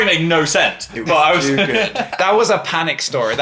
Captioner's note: laughs